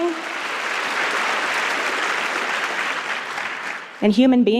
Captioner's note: applause